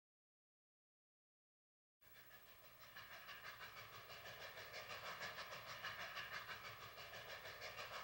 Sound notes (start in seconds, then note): 4.1 chugging train